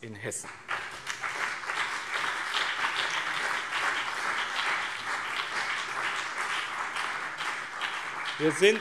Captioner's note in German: Beifall BÜNDNIS 90/DIE GRÜNEN und CDU